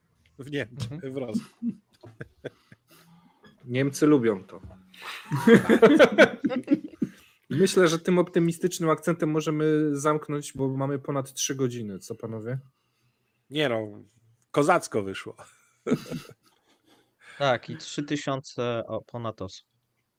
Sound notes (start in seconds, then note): 5.0 laughter